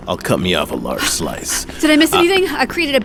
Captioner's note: laughs